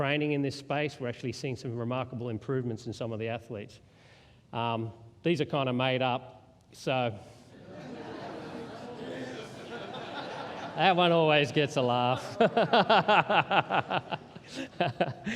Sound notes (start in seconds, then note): 7.5 laughter